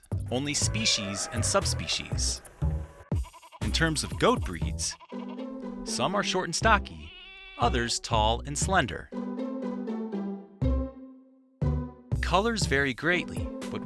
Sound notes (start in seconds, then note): 0.4 elephant trumpeting; 4.7 goat bleating